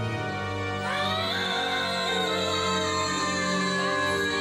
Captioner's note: screaming